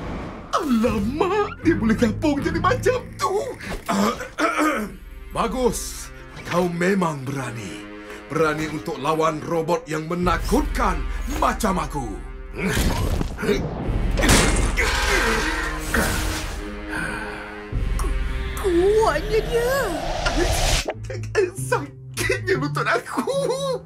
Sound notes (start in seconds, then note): 14.2 metal creaking